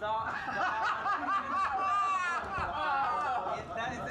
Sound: laughter

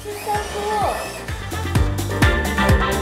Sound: motor running; upbeat music

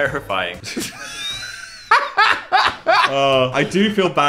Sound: laughing

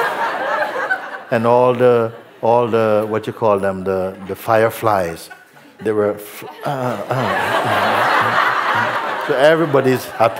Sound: laughter; laughter

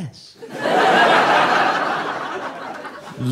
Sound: audience laughing

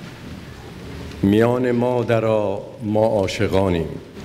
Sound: speaking persian

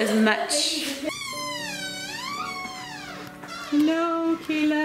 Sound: door squeaking

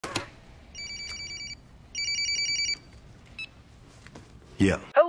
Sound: cell phone ringing

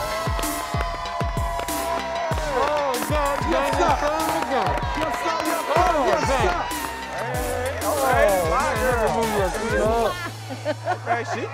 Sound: cheering

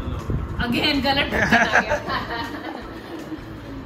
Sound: laughs

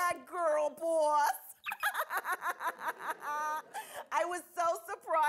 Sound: Monalisa laughing

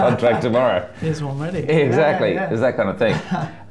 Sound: laughs

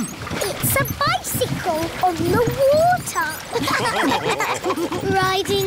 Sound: all laughing

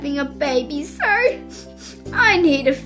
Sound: sniff, sniff

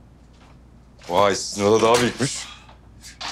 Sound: door closes

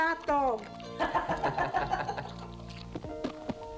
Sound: all chuckling; tender piano music

